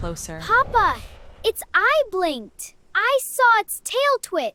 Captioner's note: heart racing